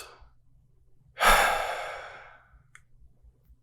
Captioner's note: beleaguered sigh